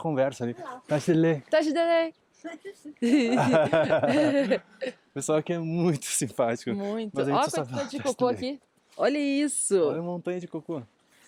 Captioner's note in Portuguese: risadas